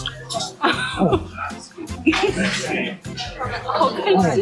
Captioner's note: laughing - so delicious